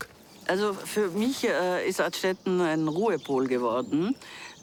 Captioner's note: speaking foreign language